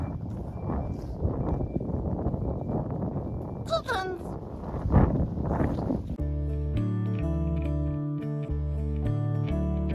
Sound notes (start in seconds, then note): 3.6 silly voice